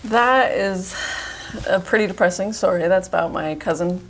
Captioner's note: sighs